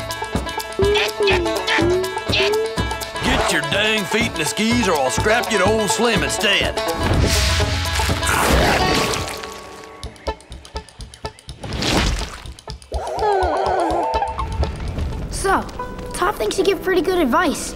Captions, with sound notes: Get your dang feet in the skis or I'll strap you to ol' Slim instead. [whimpering] So, Toph thinks you give pretty good advice.